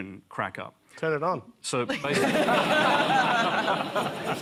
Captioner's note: laughter